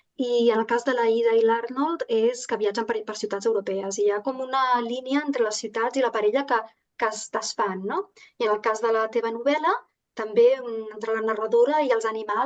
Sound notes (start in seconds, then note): 1.9 continues speaking in Catalan